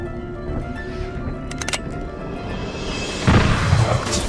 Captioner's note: ka-click; bang